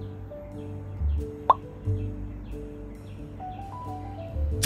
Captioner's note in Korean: 새소리에 시원한 날씨